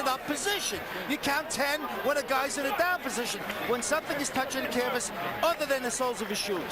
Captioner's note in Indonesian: Tepuk tangan